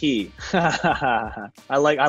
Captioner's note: laughs